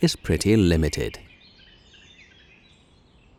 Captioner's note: birds chirping